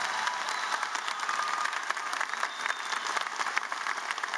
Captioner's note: cheering